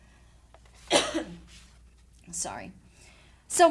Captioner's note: coughs loudly